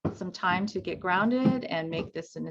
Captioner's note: footsteps thumping